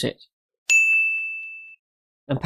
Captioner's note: ding